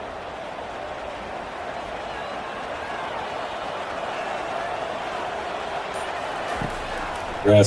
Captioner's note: crowd cheering